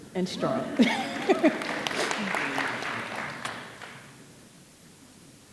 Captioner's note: audience applauding